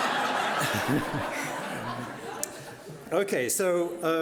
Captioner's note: audience laughing; laughing